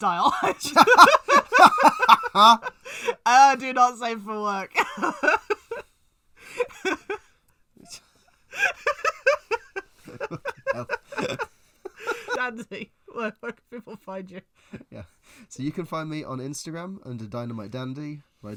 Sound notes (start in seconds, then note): 0.0 laughs; 8.5 laughs